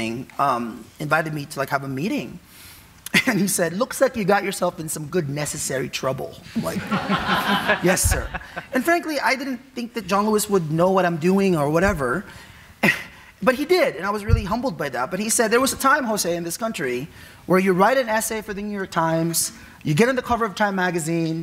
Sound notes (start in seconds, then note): 6.6 audience laughing